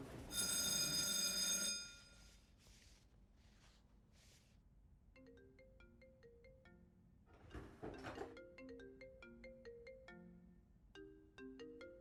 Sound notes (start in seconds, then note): 0.3 bell rings; 5.1 phone chimes